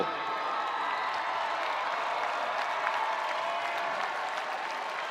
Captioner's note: spectators applauding; spectators cheering